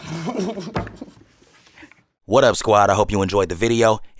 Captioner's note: both laugh